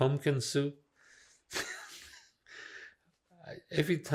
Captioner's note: laughing